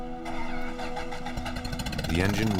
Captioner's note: car starting